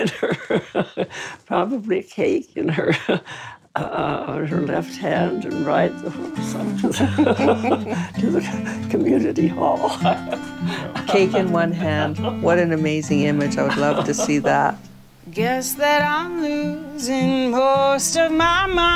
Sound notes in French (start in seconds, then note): 5.0 rires